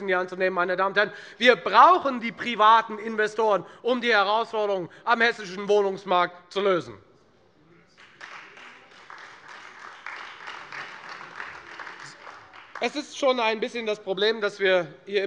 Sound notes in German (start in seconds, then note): 7.9 Beifall Freie Demokraten und vereinzelt AfD